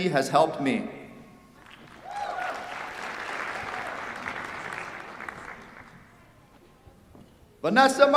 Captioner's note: applause